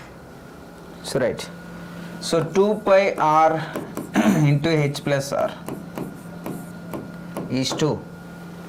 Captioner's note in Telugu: గొంతు సవరించుకోవడం